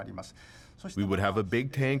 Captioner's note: speaking Japanese